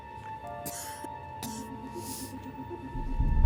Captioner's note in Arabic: يسعل بهدوء